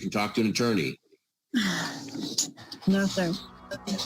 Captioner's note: sighs